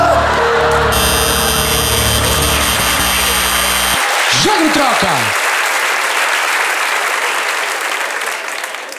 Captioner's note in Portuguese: campainha e aplausos